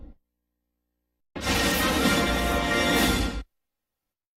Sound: electricity zapping as rousing fanfare plays

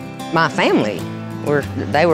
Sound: none

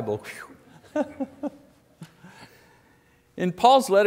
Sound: laughing

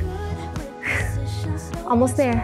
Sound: exhales

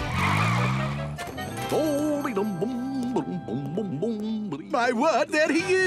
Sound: humming

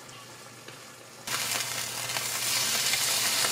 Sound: sizzle

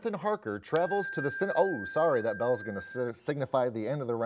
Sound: bell chimes

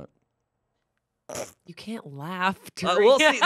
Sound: chuckles; laughs

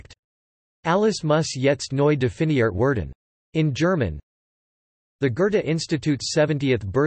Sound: in German

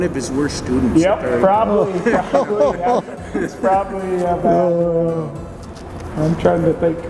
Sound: laughs

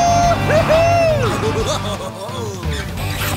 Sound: laughing

